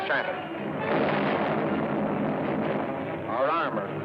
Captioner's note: explosion